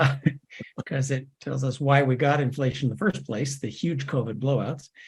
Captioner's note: laugh